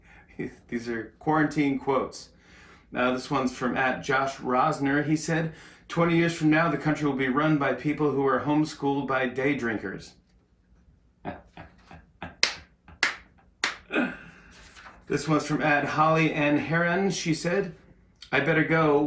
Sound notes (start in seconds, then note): 11.2 laughs